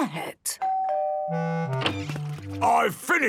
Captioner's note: doorbell dinging